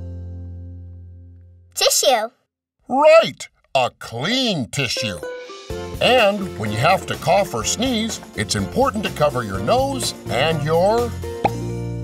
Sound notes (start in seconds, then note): none